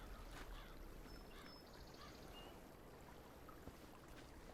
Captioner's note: birds chirping; crow cawing